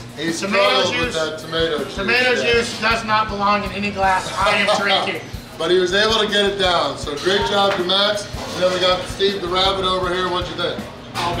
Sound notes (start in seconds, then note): 4.7 laughing